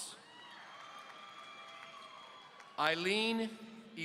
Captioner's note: audience cheering